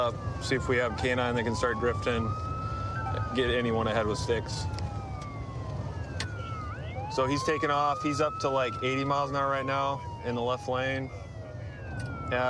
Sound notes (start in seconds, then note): 4.5 sirens wailing